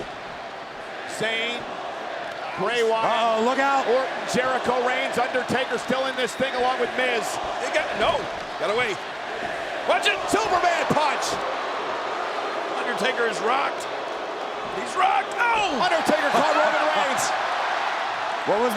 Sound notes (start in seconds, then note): 12.2 crowd boos